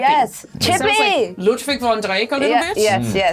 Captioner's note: accented